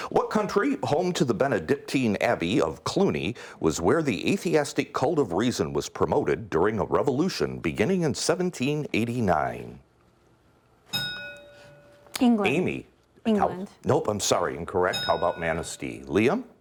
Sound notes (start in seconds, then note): 10.9 ding; 14.9 ding